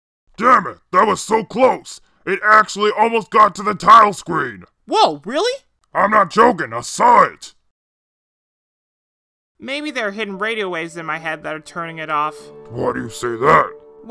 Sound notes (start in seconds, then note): none